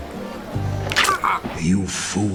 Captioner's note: zombie yelp